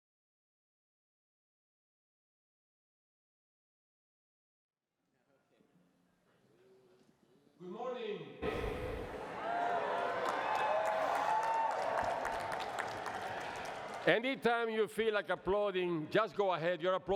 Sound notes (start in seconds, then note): 9.1 cheering and applause